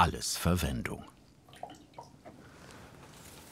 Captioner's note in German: Plätschern